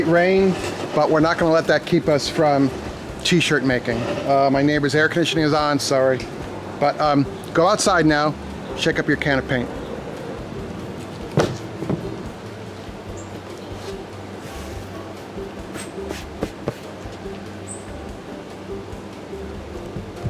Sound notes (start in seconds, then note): 11.3 cardboard thumps; 13.1 soft jazz music; 15.4 light tapping